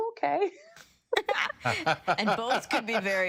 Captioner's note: laughter